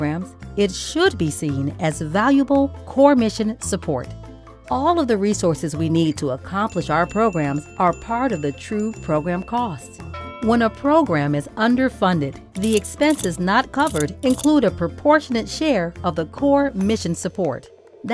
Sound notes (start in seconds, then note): 6.7 bell ringing; 10.0 bell rings; 12.1 object crunching